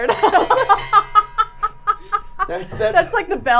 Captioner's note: water bottle clanging; laughing; laughs